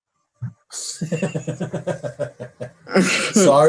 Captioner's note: laughs